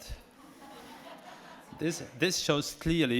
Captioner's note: audience chuckles